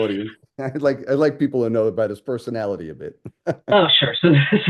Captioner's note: laughs